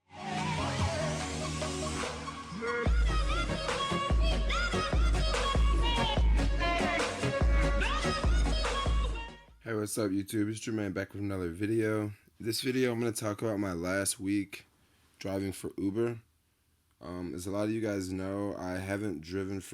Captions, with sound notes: (electronic music) - [Voiceover] Hey, what's up YouTube? It's Jermaine back with another video. This video I'm going to talk about my last week driving for Uber. As a lot of you guys know, I haven't